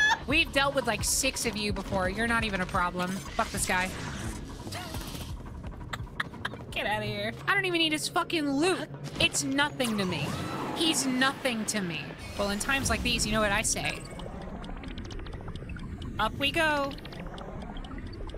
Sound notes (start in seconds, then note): 5.8 quiet Laughter